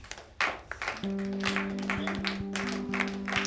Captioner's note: class clapping